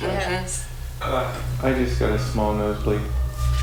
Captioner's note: voiceover